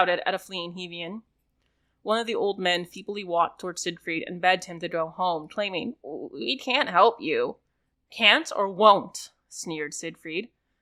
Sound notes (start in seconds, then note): none